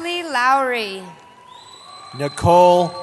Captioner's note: cheering